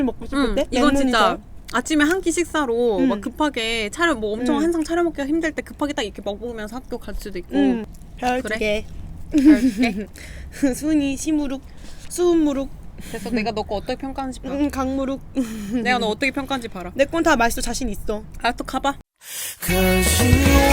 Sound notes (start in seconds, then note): 10.2 sigh